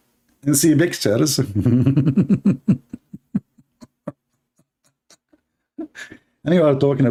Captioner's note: Ketawa